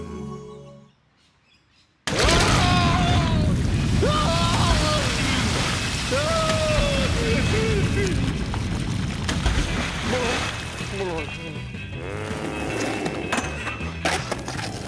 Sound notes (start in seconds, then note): 2.1 screams; 12.0 growls